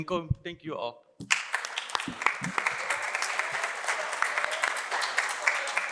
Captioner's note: applause